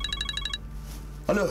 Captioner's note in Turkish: telefon çalıyor